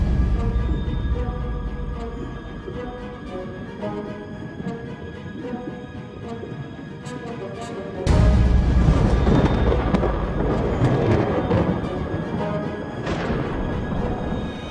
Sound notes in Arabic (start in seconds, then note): 9.7 تصفيق الرعد